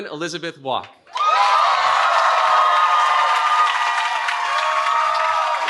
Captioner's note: cheering